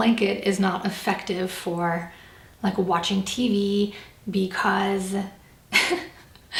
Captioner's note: laughs